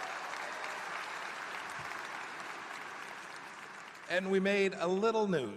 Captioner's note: applause